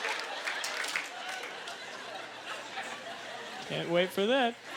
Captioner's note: audience laughter; applause; lingering chuckles; audience laughter